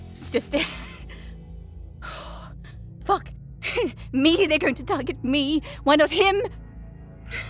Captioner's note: chuckles